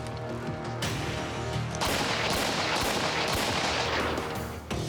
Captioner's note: gunfire; high intensity music